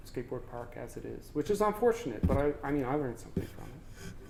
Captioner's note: none